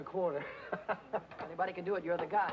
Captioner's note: happy laughing